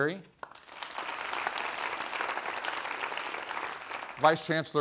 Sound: applause

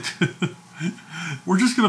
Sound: laughs

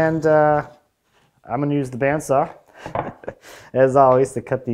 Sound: chuckles

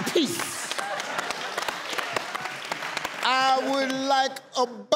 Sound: audience cheers

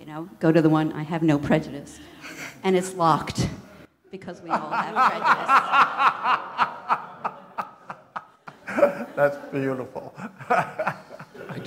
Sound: laughter

